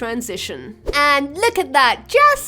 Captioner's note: fast swoop sound